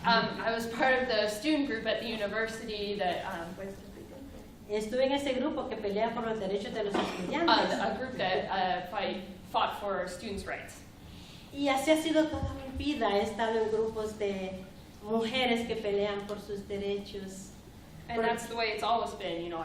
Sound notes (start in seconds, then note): 5.9 speaking spanish; 14.1 speaking spanish